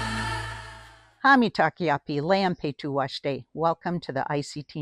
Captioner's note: speaks in Indigenous language